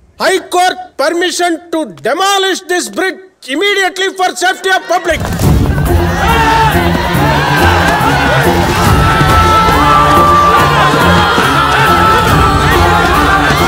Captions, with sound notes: The high court gave permission to demolish this bridge immediately for the public safety. [CROWD SCREAMING]